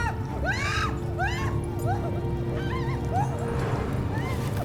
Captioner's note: Heather screaming